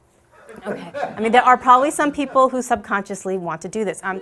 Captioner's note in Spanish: Risas